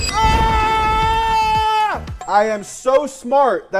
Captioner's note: screams